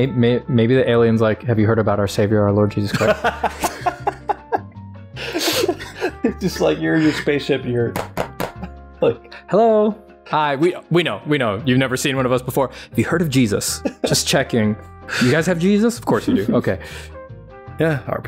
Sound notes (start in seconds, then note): 5.0 laughter; 8.0 knocking